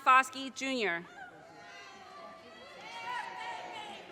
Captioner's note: audience cheers and applause